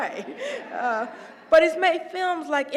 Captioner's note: laugh